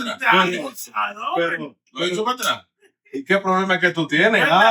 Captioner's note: speaking In Foreign Language